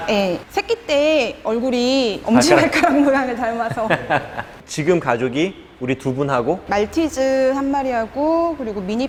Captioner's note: laughing